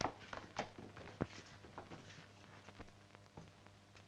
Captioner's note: floor pattering